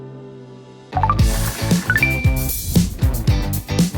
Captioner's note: high tone chimes; upbeat rock music